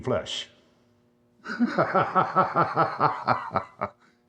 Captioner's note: maniacal laughter